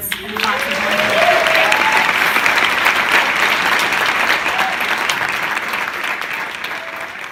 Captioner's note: applause